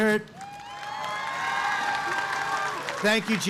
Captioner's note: applause